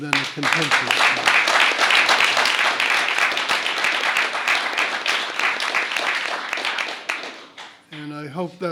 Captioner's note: applause